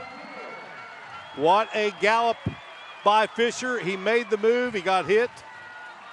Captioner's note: applause